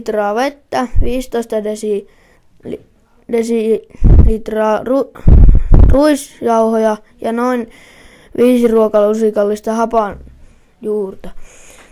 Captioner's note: in Finnish